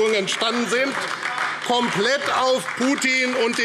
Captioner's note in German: Beifall AfD